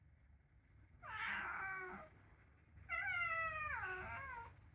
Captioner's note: cat meowing